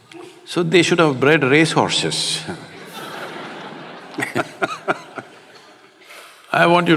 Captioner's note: laughter